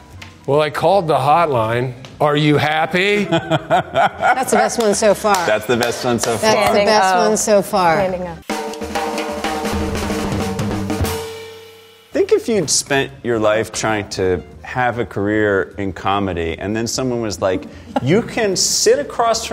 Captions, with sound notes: Well, I called the hotline. Are you happy? [laughing] - That's the best one so far. - That's the best one so far. - I think so. - Best one so far. - Standing O. [drum roll] - I think if you'd spent your life trying to have a career in comedy, and then someone was like you can sit across